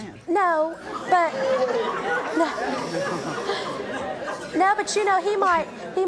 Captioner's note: audience laughing